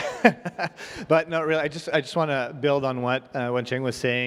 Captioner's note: chuckles